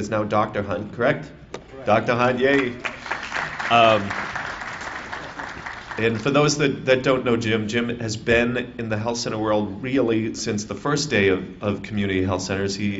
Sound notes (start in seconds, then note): 2.4 applause